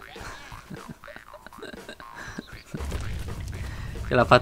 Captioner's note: giggle